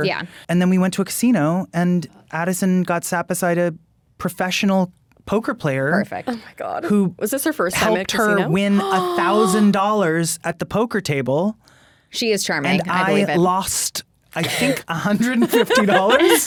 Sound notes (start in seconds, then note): 8.4 gasps; 15.0 laughing